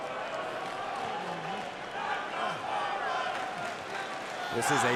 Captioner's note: audience chanting and clapping